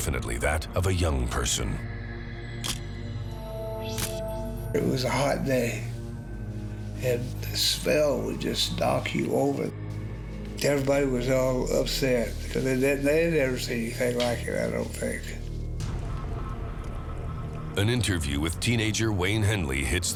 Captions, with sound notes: THAT OF A YOUNG PERSON. (camera shuttle click) IT WAS A HOT DAY AND THE SMELL WOULD JUST KNOCK YOU OVER. EVERYBODY WAS ALL UPSET THEY THEY HAD NEVER SEEN ANYTHING LIKE THAT, I DON'T THINK. AN INTERVIEW WITH TEENAGER WAYNE HENLEY HITS